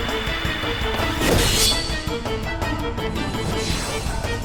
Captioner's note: magic whooshing; sword clanks